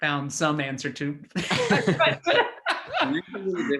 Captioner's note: laugh